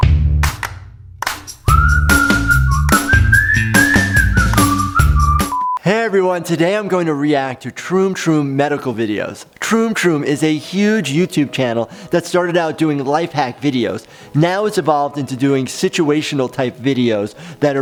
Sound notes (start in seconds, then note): 1.3 upbeat music continues; 1.6 soft clapping and whistling; 5.1 beep